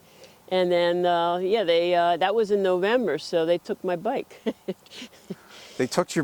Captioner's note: laughs